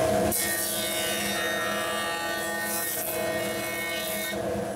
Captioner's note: machine whirs